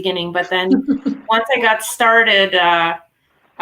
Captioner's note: laughing